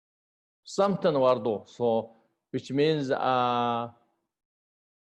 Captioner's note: tibetan